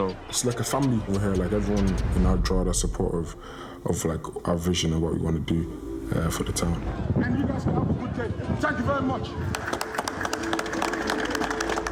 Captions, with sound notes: - It's like a family over here. Everyone in Drogheda is support of, like, our vision of what we want to do for the town. - And you guys have a good day. Thank you very much! (applause)